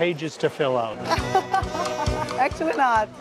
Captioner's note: laughs